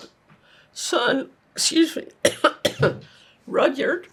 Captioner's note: coughing